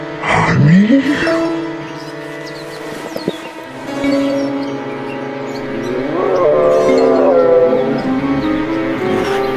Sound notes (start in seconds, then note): 0.2 in a strange voice; 6.3 growling